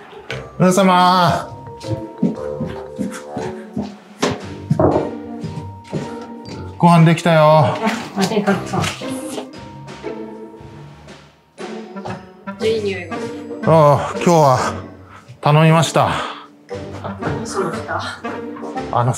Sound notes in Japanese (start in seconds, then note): 4.2 ノック音